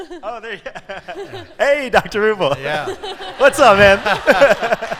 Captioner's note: laughter